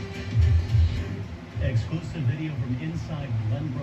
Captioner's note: on TV